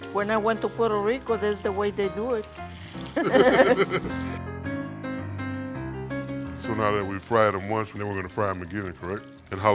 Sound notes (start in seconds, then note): 3.1 laughter